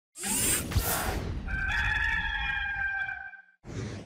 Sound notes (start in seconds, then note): 0.2 graphic swooshes; 1.5 rooster crowing